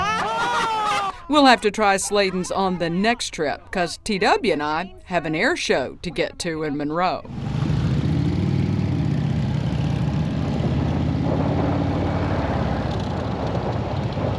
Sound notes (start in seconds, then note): 0.0 both laugh; 8.0 engines humming